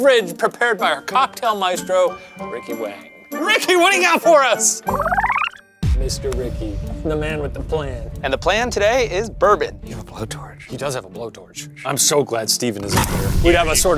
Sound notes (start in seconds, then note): none